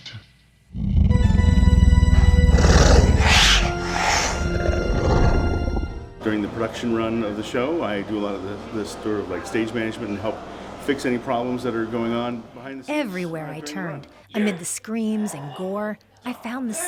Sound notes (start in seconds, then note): 2.4 creatures roar